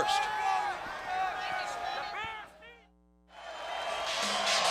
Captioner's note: crowd cheering